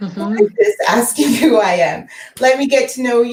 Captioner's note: faintly speaking